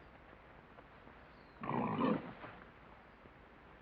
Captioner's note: pig grunts